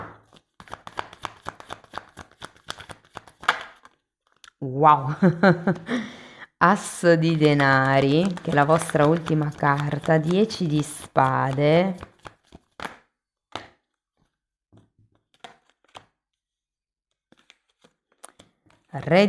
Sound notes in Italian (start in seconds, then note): 5.1 risate